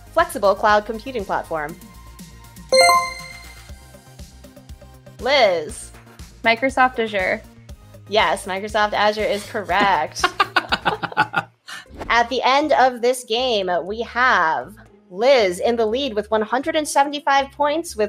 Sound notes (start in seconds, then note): 2.7 chime rings; 9.8 laughs